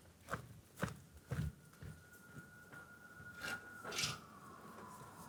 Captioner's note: sirens blaring